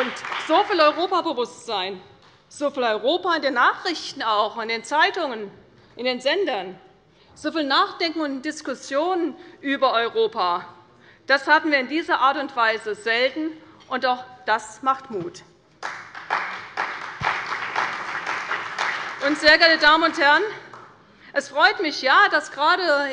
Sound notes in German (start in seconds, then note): 0.0 Beifall bei der CDU und dem BÜNDNIS 90/DIE GRÜNEN; 15.8 Beifall bei der CDU und dem BÜNDNIS 90/DIE GRÜNEN